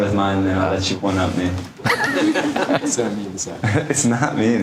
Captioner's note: laughter